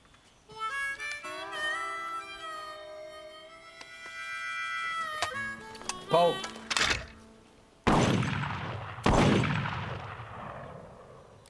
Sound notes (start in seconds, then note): 0.4 harmonica music; 6.4 rifle clicks; 6.5 clicking sound; 7.8 gunshots fired